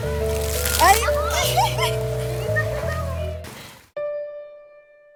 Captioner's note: funny high pitched laughing